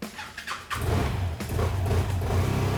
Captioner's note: motorcycle starts